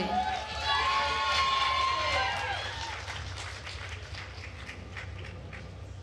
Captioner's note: attendees cheering and applauding